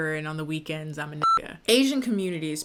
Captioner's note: beep